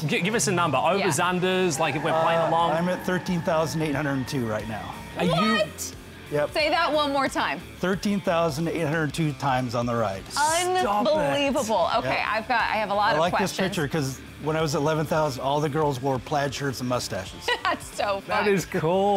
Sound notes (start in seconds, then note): 2.5 car revving